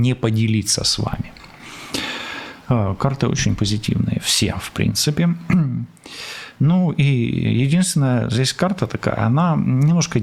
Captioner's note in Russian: откашливается